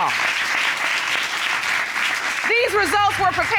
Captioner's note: audience applauds